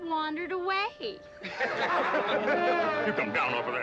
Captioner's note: crowd laughing